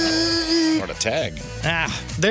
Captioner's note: buzzing